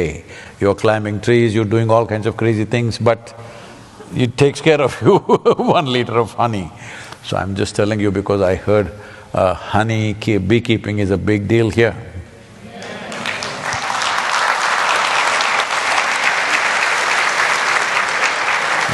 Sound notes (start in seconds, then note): 4.8 laughs; 15.7 applause